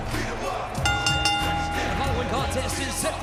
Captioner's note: bell dinging